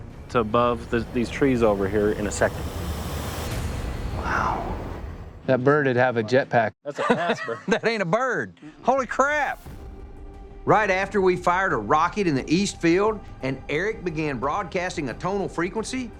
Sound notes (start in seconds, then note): 6.8 laughter